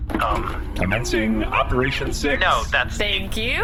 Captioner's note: C-53’s door slides open again